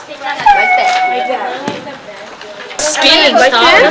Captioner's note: chatter